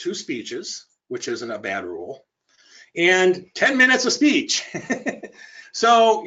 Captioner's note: laughs